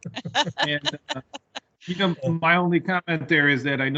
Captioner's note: all laughing